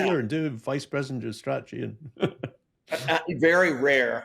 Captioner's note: chuckles